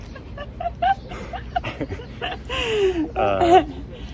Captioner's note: laughs